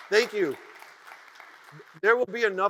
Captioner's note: audience cheers and applauds